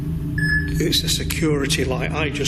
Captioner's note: beeps